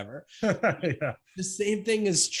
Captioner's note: laughs